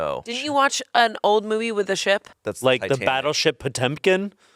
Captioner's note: none